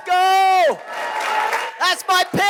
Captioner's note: applause